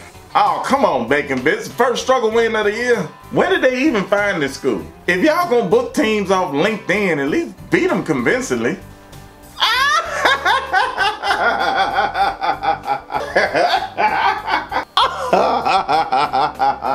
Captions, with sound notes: AWW C'MON BACON BITS THE FIRST STRUGGLE WIN OF THE YEAR? WHERE DID THEY EVEN FIND THIS SCHOOL? IF YOU'RE GOING TO BOOK TEAMS OFF OF LINKEDIN AT LEAST BEAT 'EM CONVINCINGLY (HYSTERICAL LAUGHTER) (LAUGHTER CONTINUES)